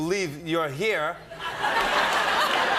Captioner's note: laughter